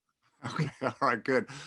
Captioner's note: both laughing